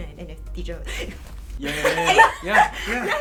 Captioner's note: gasp